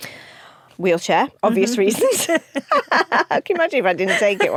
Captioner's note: both laugh